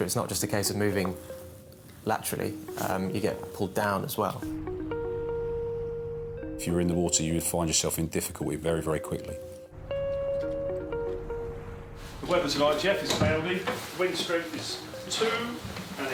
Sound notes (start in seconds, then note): 4.5 eerie music; 4.5 water trickles; 8.7 eerie music